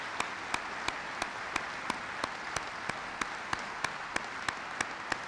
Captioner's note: applause